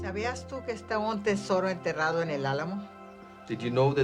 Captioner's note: speaking spanish